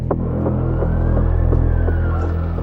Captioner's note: suspense music begins; police siren